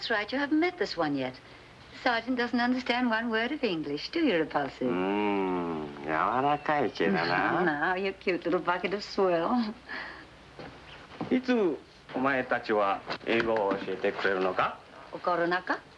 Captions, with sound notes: - Oh that's right, you haven't met this one yet. This sergeant doesn't understand one word of English do you repulsive? (speaking foreign language) You cute little bucket of soil. (speaking foreign language)